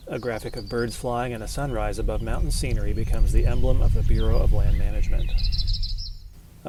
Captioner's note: birds chirping